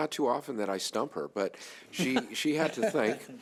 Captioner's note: laughing